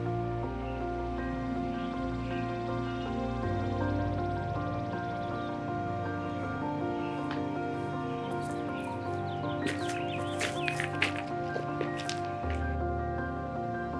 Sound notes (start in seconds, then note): 9.6 rocks clanking